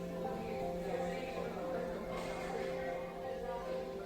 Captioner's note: indistinct chatter